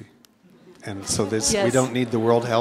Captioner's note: laugh